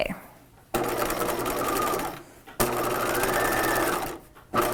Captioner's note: machine whirring